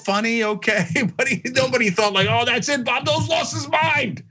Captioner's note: laugh